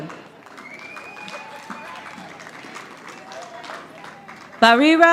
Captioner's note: audience applauding